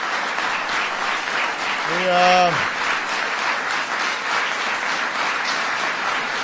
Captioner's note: applause